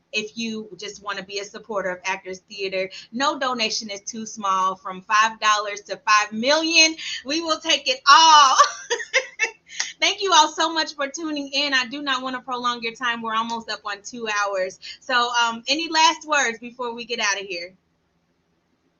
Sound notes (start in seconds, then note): 8.5 laughs